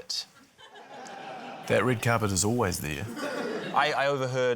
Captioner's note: laughter